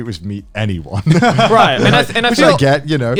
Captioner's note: all laughing